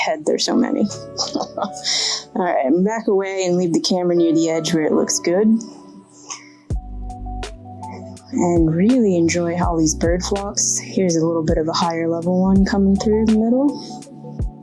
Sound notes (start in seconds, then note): 1.2 chuckles